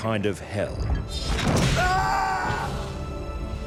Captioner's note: whip lashes; man screams